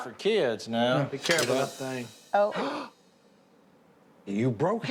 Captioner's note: gasps